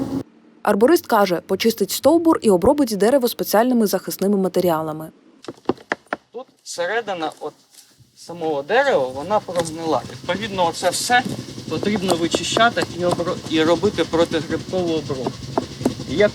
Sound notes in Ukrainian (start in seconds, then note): 9.0 стукає